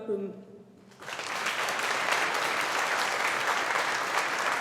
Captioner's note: audience applauding